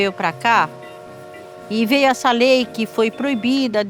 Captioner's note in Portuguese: apito de trem